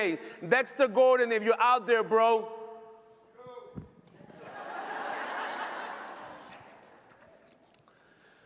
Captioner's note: laughter